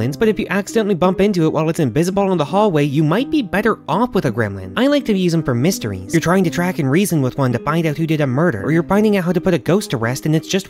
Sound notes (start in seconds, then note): none